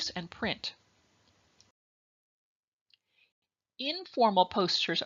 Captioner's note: silence